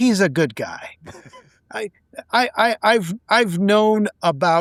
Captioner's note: laughing